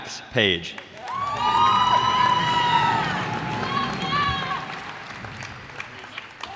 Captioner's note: cheers and applause